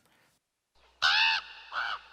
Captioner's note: raven caw